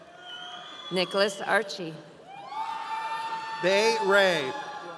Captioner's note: audience cheering